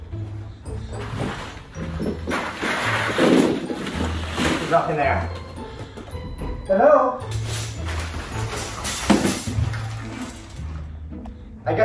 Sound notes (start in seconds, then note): 1.9 toys dropping; 7.3 shower curtain rustling